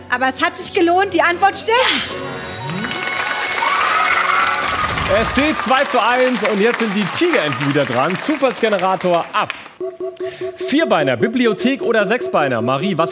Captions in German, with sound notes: Es hat sich gelohnt, die Antwort stimmt. (Jubel) Es steht 2:1, jetzt sind die Tigerenten wieder dran. Zufallsgenerator ab. Vierbeiner, Bibliothek oder Sechsbeiner?